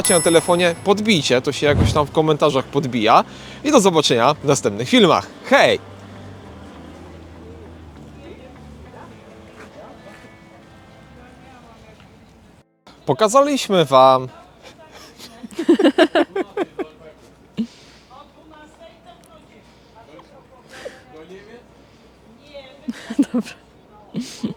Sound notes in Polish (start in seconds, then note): 14.7 śmiech